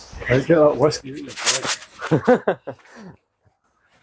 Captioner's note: laughter